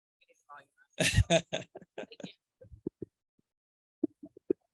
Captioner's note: laughing